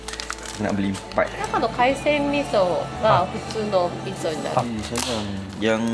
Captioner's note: speaking Japanese